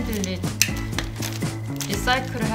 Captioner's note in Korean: 테입 떼는 소리